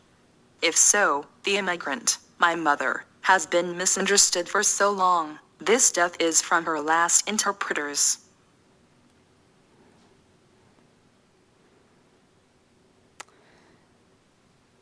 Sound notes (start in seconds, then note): none